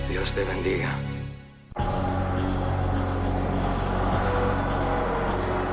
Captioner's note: Hector speaking in foreign language